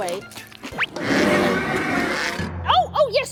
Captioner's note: Melba growling